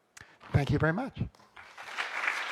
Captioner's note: applause